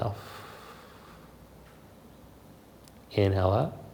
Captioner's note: exhales softly